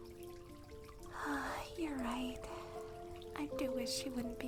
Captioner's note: sighs